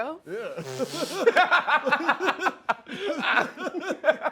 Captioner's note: laughter